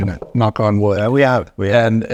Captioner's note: hand knocking